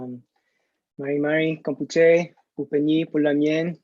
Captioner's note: non-english speech